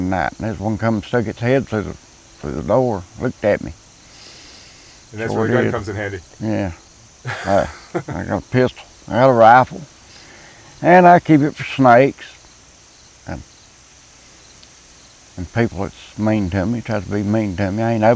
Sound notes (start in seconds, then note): 7.2 interviewer laughing